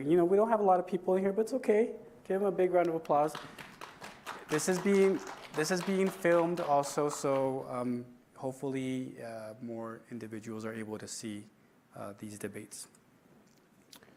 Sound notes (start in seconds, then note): 2.8 applause